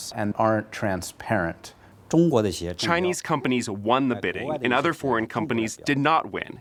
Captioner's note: through translator